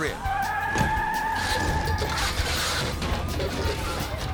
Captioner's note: tires screeching